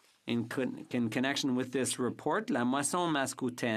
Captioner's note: speaking French